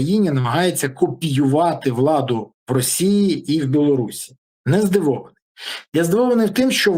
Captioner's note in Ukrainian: сопіння